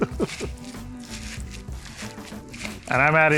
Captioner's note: chuckles; blueberries crunching